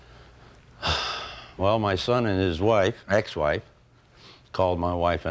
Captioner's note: sighing